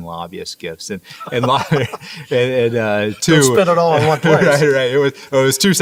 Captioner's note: laughs